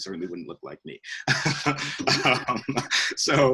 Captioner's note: both laugh